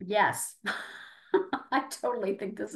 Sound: laughing

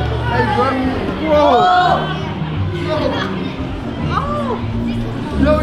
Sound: crowd yells

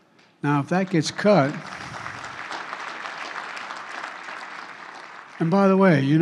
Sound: applause

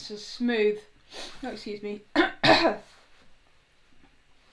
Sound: coughs

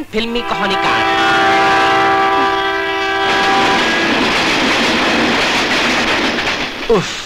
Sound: train horn blares and rumbling

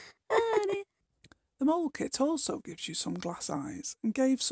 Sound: laughing

